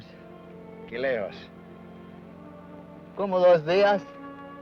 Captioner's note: Ben speaks foreign language